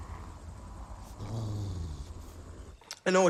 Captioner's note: growls